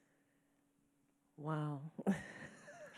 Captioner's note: chuckles